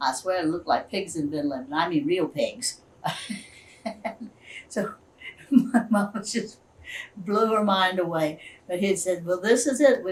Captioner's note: laughs